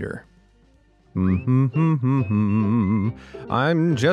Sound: narrator humming

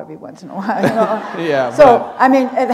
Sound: laughter

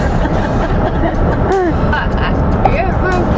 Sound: laughs

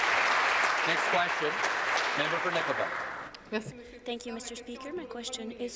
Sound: applause

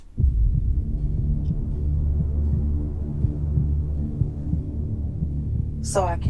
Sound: sinister music; heart beating

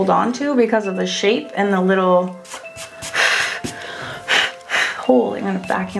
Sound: blows

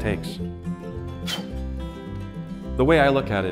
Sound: blows

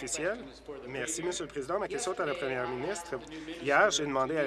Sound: applause

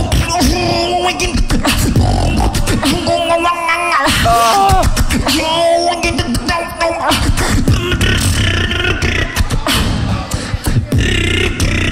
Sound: double voice intensifies

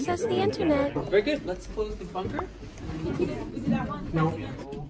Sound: indistinct chatter

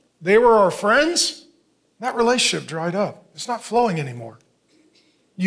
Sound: none

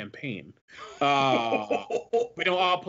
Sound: laughs

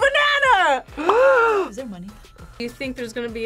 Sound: gasps

